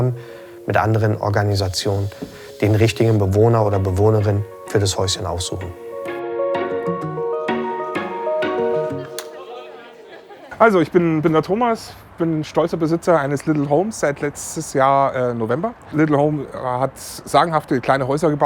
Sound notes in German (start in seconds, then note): 8.9 Handschlag, Lachen; 10.7 männliche Stimme